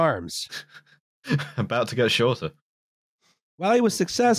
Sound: laughing

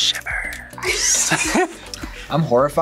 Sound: whispers; both laugh

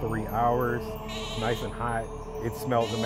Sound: lamp bleating

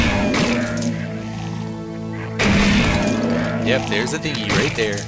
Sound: gunshots; pot breaking

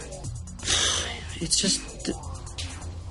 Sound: sighs

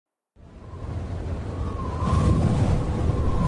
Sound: wind howling

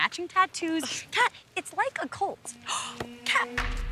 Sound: scoffs

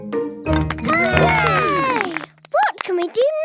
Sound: all cheer

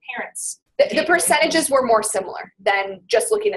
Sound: voiceover

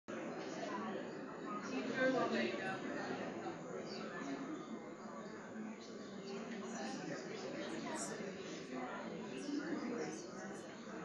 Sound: chatter

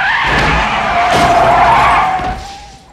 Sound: tires screeching; crashing

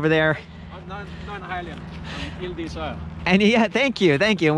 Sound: foreign language

